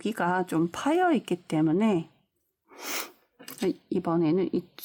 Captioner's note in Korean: 콧방귀